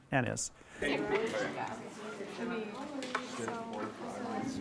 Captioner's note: group chatter